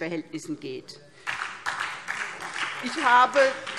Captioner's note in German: Beifall SPD